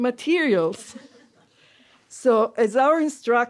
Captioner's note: laughter